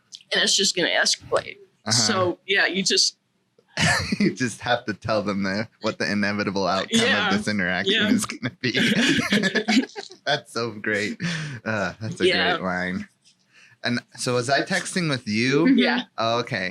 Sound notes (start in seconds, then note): 8.8 laughs